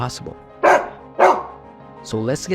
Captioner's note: dog barking